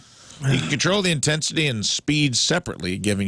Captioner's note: laughing